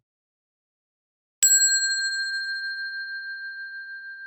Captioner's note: bell dings